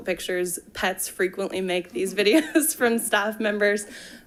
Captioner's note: chuckles